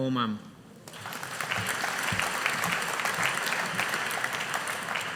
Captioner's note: audience applauding